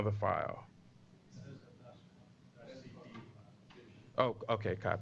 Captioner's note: pause